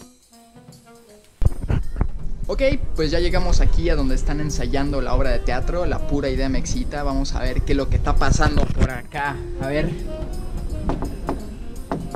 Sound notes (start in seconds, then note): 10.8 knocks on door